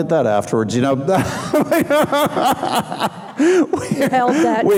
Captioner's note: laughing